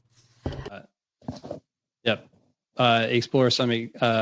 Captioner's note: speaking French